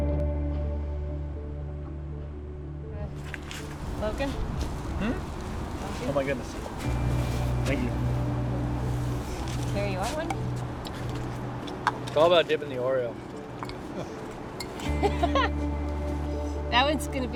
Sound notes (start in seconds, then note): 3.1 laughs; 4.1 gentle music; 14.7 gentle music